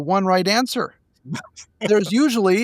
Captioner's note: laughing